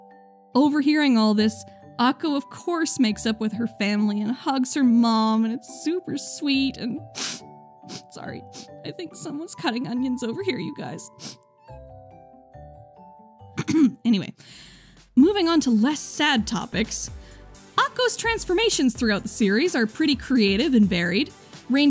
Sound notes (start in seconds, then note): 7.1 sniff; 13.5 ahem